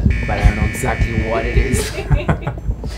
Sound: wrong answer buzzer buzzes; both laugh

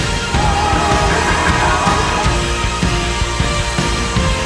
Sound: crowd cheering

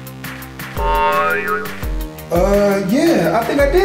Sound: graphics boinging

